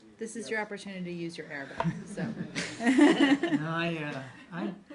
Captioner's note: laughter